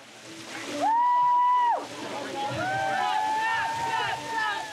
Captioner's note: hollers